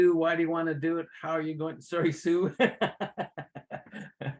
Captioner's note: laughs